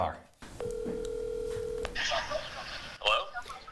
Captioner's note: phone rings